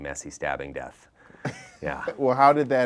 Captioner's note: giggling